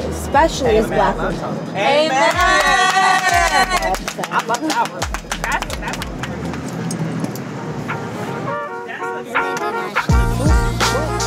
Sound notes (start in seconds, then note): 2.2 clapping; 8.5 upbeat hip hop music